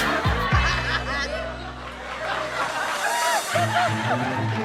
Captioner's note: crowd laughing; suspenseful music